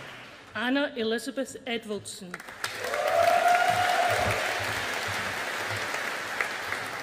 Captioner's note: audience applauding